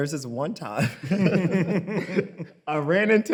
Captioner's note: both laugh